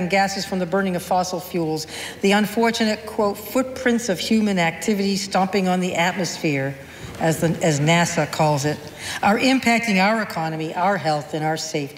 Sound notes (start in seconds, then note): none